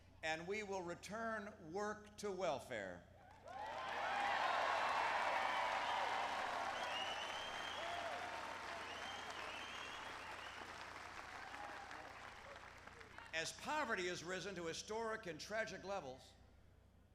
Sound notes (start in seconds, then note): 3.3 applause